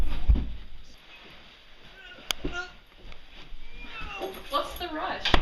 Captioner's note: Alex falls to the floor with a thud; Alex groans; door closes